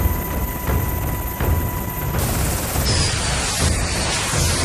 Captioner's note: jets blasting